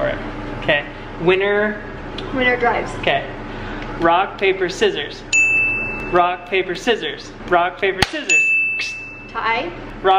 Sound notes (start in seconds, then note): 5.3 ding; 8.2 ding